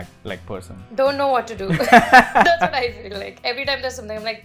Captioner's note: laughter